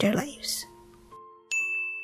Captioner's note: ding sound